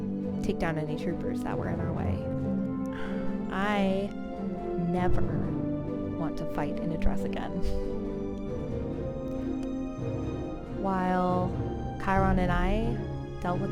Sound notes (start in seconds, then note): none